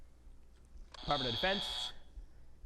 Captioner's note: buzzer buzzing